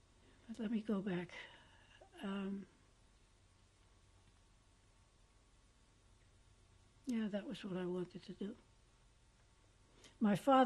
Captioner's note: pauses for 6 seconds